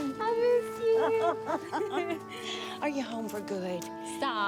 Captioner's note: laughs